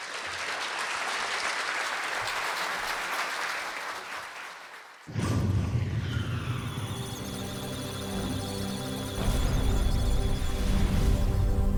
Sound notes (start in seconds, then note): 0.0 applause; 5.6 electronic sounds of data; 6.8 musical tones